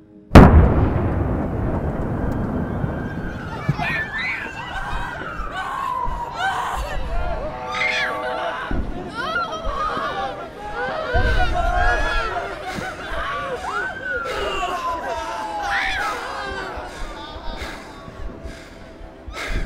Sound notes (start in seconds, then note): 0.0 thud; 0.3 missile fire; 3.6 children screaming; 3.6 sirens; 7.8 car horns honking; 7.8 wailing in pain; 10.7 crying overlapping each other; 13.8 heavy breathing